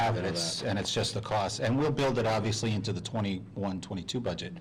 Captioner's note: laughing